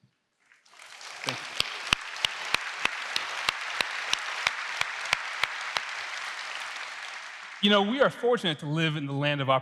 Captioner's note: applause